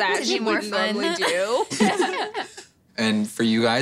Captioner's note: laughing